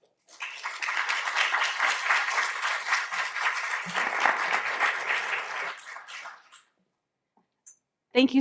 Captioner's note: applause